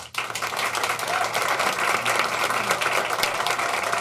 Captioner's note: applauding